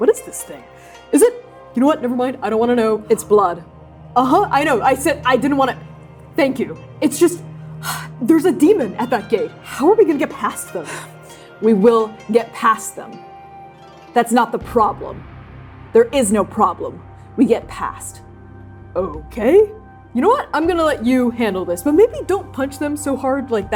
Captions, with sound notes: what is this thing? Is it— you know what, nevermind, I don't want to know— It's blood. Uh-huh. I know, I said— I didn't wanna... thank you. It's just, [exhaling], there's a demon at that gate. How are we going to get past them? [scoffing] We will get past them. That's not the problem. There is no problem. We get past. Okay... you know what? I'm going to let you handle this. But maybe don't punch them so hard